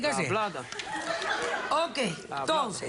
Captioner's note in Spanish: Risas